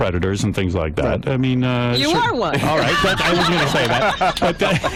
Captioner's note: laughter